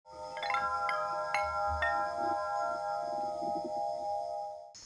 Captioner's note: windchimes ringing; crickets